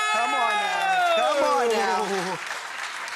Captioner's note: audience cheering